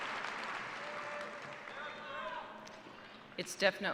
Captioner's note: cheers and applause